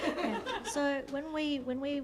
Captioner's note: laughter